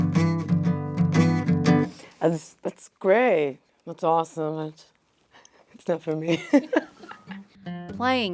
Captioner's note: laugh